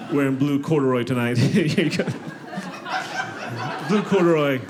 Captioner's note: audience laughing